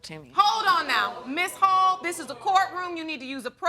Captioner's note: audience gasps